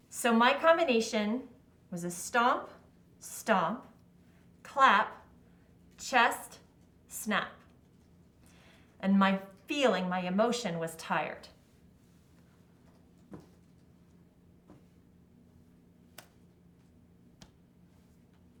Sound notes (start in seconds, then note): 13.4 feet lightly stomping; 16.1 hands softly clapping